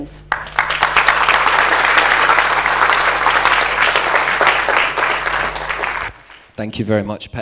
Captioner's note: applause